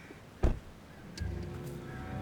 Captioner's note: door thuds; sinister music